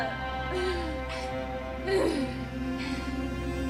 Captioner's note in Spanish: sollozos; jadeo